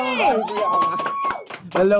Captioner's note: cheering, clapping